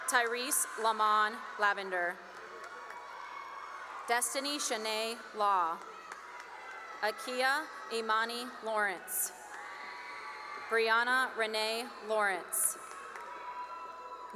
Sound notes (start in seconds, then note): 2.7 cheering; 5.3 cheering and applause; 8.8 cheering and applause; 12.5 cheering and applause